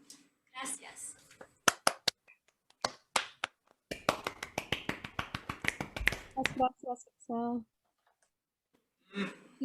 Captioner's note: applause